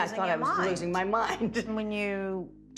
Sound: laughs

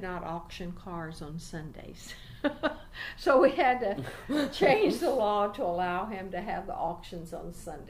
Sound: laughs

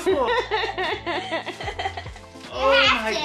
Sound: laughing

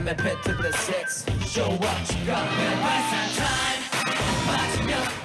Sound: fan girls are cheering at the top of their voices

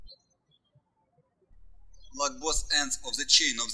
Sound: birds chirping

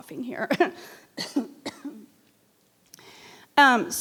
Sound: coughs

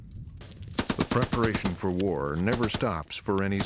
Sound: voiceover

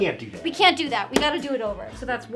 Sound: book thumping

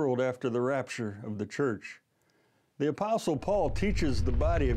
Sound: rumbling in background

